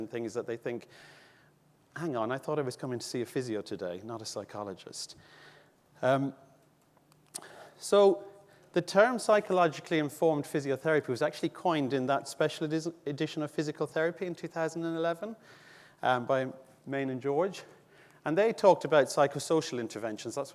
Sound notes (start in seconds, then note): none